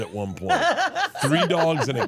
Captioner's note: laughs